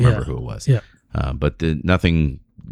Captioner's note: uh